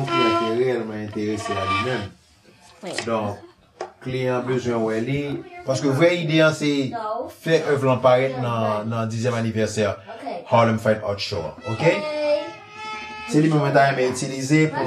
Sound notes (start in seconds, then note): 0.0 violin playing; 5.1 children talking in background